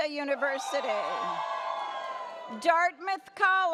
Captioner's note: audience cheers